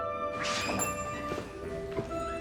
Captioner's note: door opens